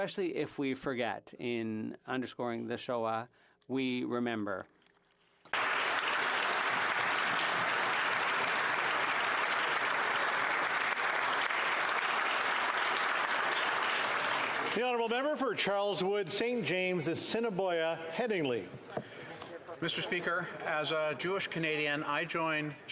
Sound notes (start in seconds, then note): 14.5 some Applause